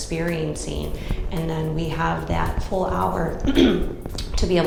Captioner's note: clears throat